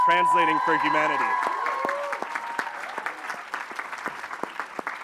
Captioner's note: applause